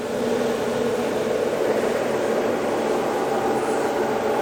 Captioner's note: machine whirring